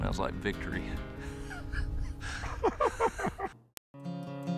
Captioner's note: laughing